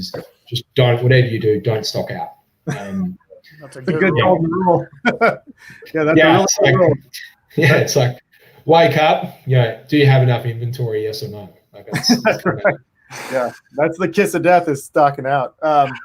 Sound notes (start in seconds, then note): 2.7 laughs; 11.6 faintly speaking; 11.8 laughs